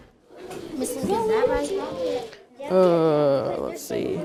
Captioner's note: learners conversing